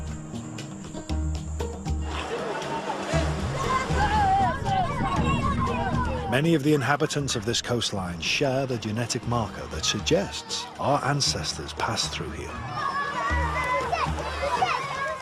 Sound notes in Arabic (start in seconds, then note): 2.5 الثرثارة الخلفية